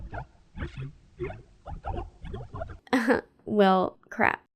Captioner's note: alien noises